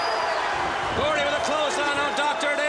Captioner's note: crowd cheering